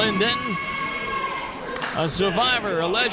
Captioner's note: crowd cheering